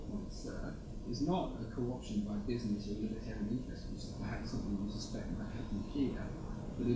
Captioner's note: speaks faintly